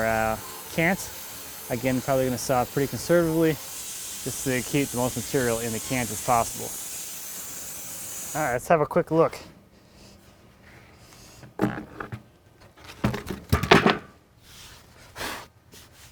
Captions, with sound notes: our cants again probably going to saw pretty conservatively. Just keep the most material in the cants as possible. All right. Let's have a quick look. (wood clunking)